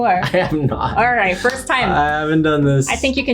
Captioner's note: claps